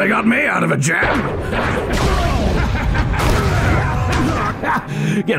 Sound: maniacal Laughter

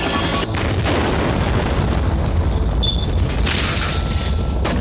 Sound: explode

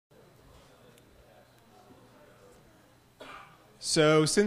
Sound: people chattering indistinctly

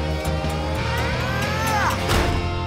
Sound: grunting

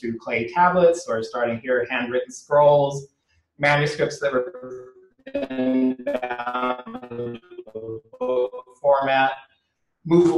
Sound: audio glitch

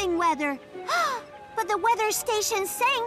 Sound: gasps

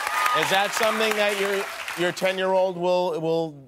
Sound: cheers and applause

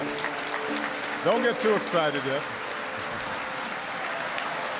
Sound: audience applauding

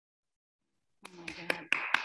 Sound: applause

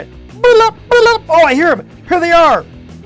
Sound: making gibberish noises

